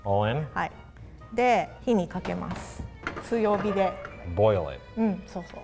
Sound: speaks in foreign language

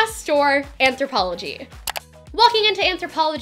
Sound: click

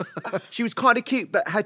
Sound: British accent

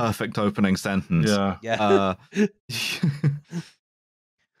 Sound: laughs with delight

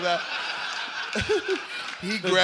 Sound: laughter

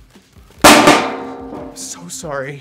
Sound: confetti cannon bangs on table

